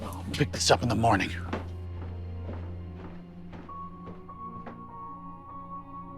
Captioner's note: footsteps receding